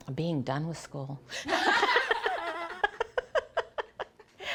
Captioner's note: laughter